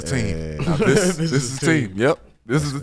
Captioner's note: laughs